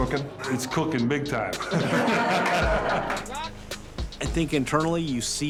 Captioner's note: group laughing